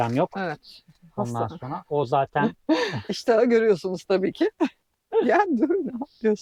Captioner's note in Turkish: kahkaha